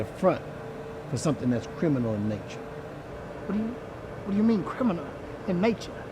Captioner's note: none